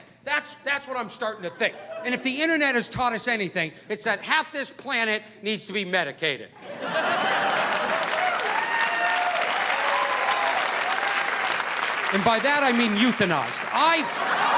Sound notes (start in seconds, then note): 6.6 audience laughing; 6.8 audience applauding